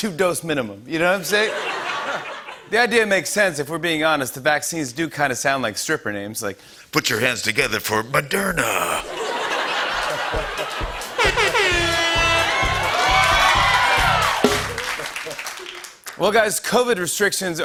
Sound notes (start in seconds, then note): 1.2 laughter; 9.0 laughter and applause; 11.0 vuvuzela blasts; 12.7 cheering and applause